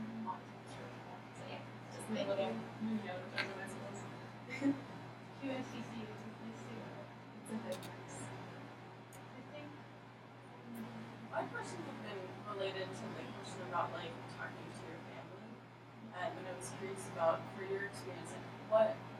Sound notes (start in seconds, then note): 0.1 speaking softly; 5.8 speaking off microphone